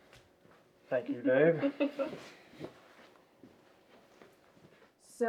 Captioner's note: Danielle chuckles